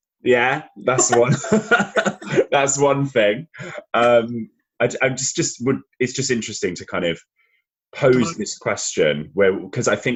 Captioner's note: laughs